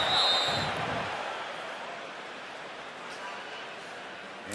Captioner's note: whistle